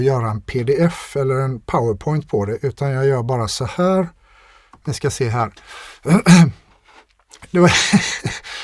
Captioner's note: clears throat